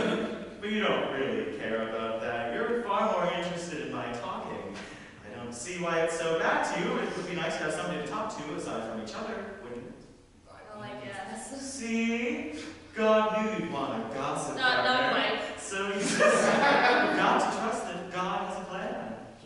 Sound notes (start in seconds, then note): 15.9 audience laughter